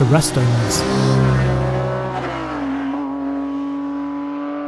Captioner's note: car engine revving